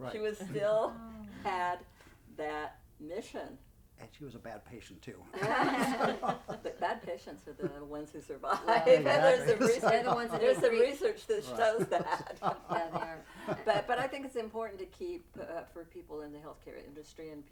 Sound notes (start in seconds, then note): 5.4 laughing; 5.4 laughs; 8.7 laughing; 12.7 laughs